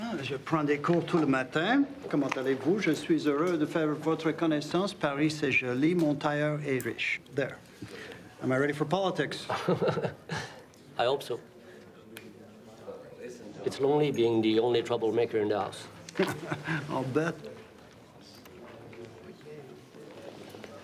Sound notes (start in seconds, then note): 0.1 Eric speaking in foreign language; 9.5 laughs; 16.1 laughs